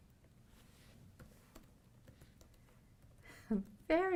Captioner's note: typing